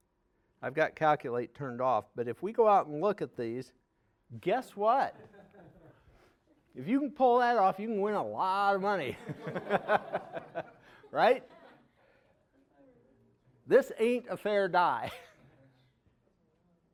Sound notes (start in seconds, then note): 9.2 audience laughing